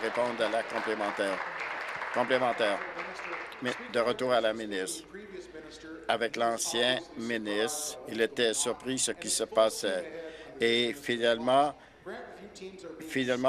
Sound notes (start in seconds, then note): 4.3 applause